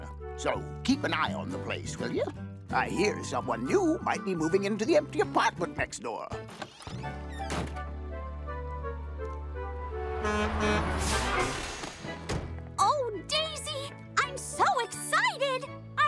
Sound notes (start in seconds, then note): 10.1 honking